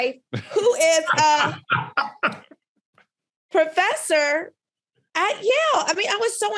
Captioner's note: laughs